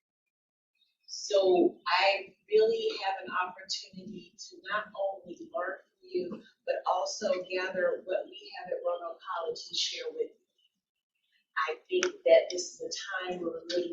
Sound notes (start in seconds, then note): none